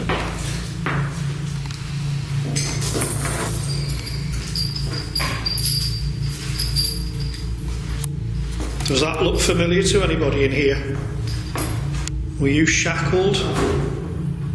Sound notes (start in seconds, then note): 2.8 clanking of shackles